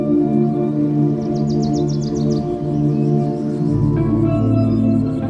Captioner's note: birds chirping